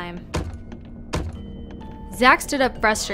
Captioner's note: knocking